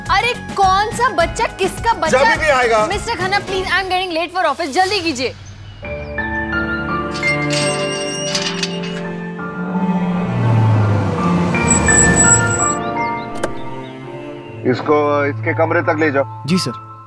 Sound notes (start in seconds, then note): 7.0 Gate opens; 11.6 Car halts; 13.2 Car door opens